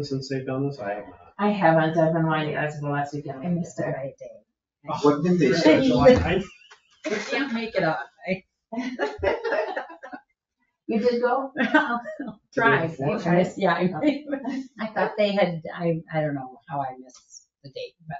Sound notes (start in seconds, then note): 4.8 people chatter; 8.8 people chuckle